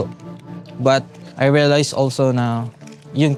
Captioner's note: in English; in Tagalog